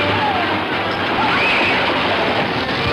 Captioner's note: squeals; fire crackling; dramatic music